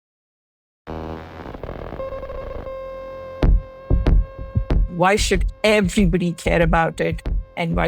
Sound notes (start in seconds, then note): 0.9 static crackling; 3.9 upbeat music